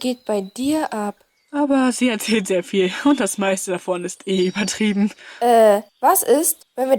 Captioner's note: laughs